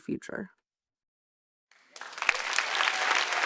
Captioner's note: applause